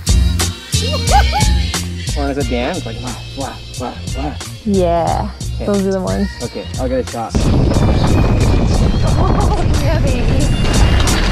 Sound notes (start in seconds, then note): 1.0 cheering; 7.3 tires rumbling